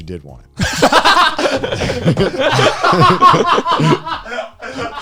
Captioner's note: all laughing